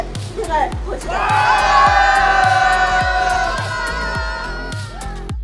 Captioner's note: the sound of people cheering